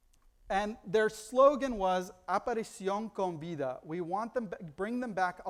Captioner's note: foreign language